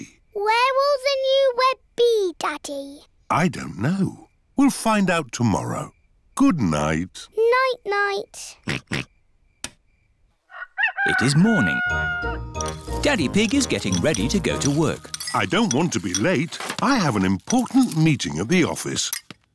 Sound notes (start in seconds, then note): 8.6 oinks; 10.4 rooster crows